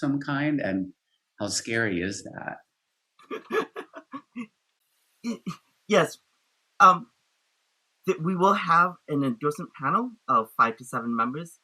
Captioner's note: laughs